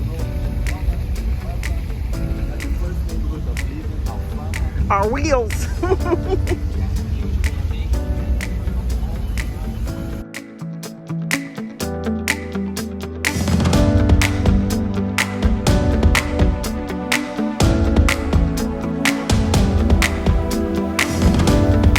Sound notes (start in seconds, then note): 0.1 upbeat tempo music; 5.6 laughing; 9.1 lively piano beat music